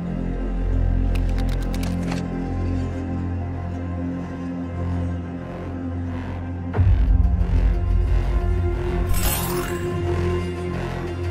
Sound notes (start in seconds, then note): 9.1 laser gun activates